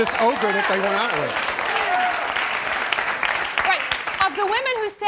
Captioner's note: cheering